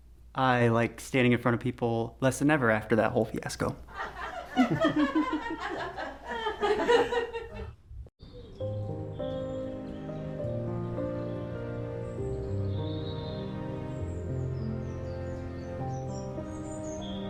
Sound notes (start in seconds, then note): 3.9 laughter; 8.6 dramatic music